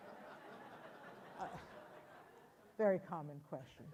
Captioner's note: audience laughs